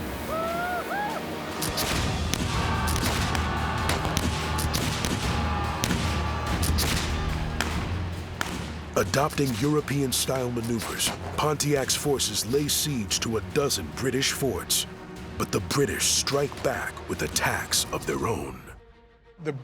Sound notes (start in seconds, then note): 0.1 war cries; 1.6 gunfire